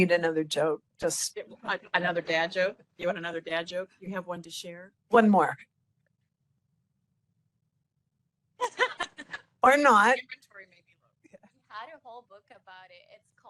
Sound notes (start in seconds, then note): 8.6 laughing